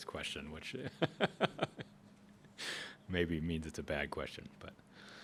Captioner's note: laughs